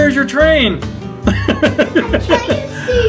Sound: laughing

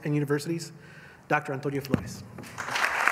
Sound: applause

